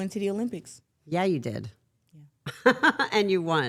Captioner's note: laughs